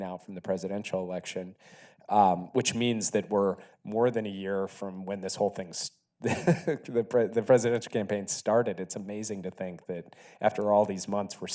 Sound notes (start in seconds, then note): 6.2 Jake laughs